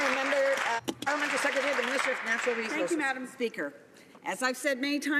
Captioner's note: some Applause